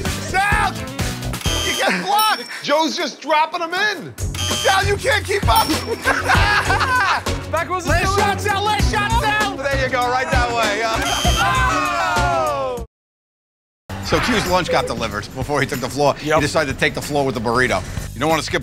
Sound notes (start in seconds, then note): 5.6 laughter